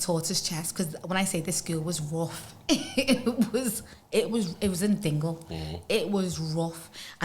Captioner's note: laughs